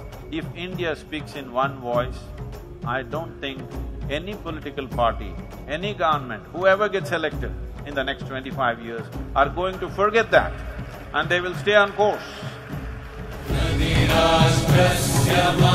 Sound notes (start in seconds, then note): 10.8 audience applauds